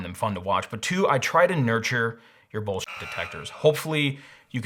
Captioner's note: beep